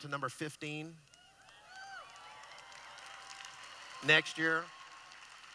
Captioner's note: cheering